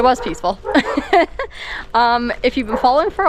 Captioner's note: laughs